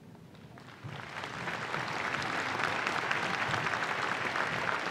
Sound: applause

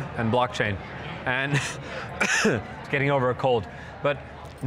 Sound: coughs

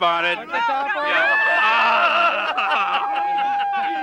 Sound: crowd commotion

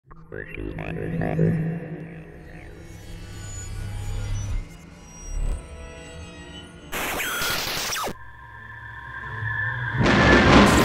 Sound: sound Effects

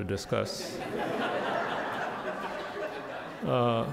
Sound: crowd laughing

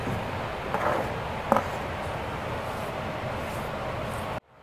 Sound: tool scraping

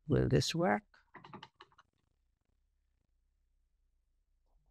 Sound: keyboard clacking

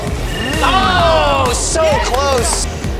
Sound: everyone shouts

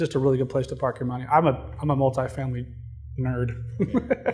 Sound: laughing

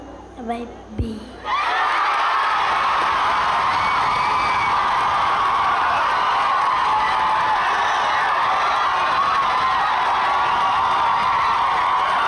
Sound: boisterous ongoing cheering

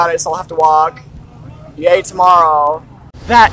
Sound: sarcastically

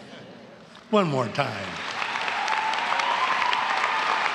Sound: laughs; applause

